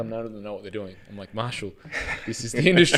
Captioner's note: both laughing